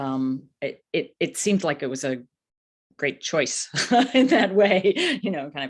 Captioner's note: laughs